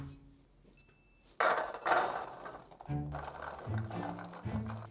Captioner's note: chickpeas dropping